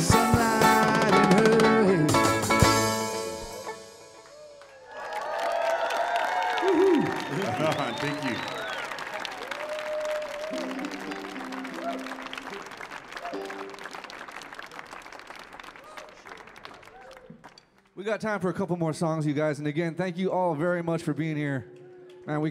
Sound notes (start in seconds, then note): 4.6 audience applauding; 9.0 audience cheering